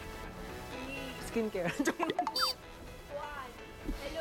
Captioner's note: laughs